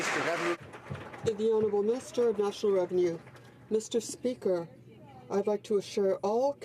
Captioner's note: some Applause